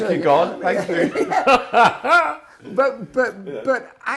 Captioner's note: laughing